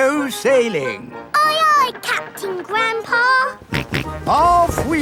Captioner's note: snorts